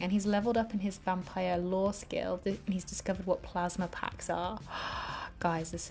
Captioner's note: gasps